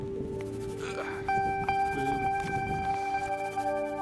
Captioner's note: grunts